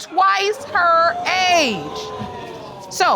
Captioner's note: audience exclaiming